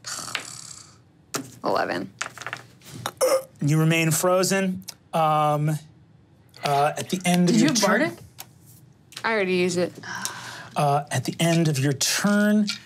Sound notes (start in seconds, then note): 0.0 sighs; 2.7 mimics choking